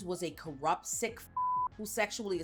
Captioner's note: beep